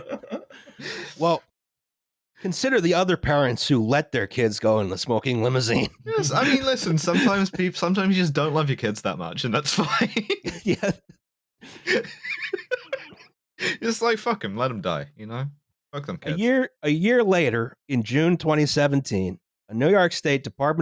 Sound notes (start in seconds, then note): 0.0 laughter; 9.6 laughs